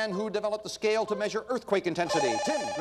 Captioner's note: bell rings